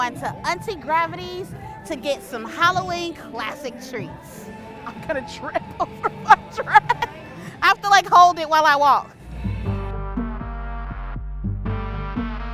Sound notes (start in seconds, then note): 5.6 laughs